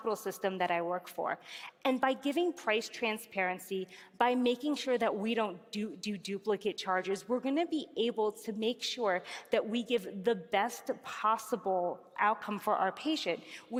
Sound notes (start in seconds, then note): none